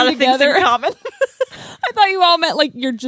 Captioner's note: laughs